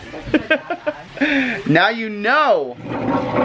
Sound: laughing

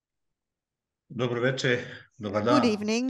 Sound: non-english speech

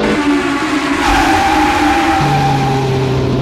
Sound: tires screeching

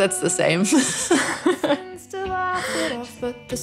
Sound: laughter

